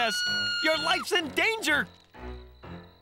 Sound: screaming

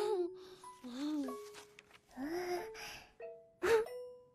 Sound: flips page

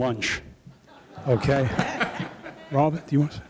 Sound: audience laughing

